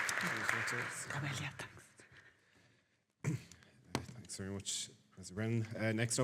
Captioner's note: clears throat